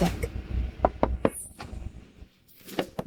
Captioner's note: knocking